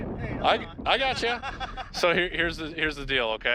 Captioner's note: father laughing